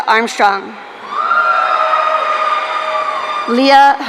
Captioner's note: audience cheering